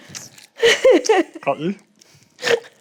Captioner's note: laughs